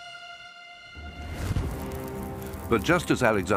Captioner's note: flame crackles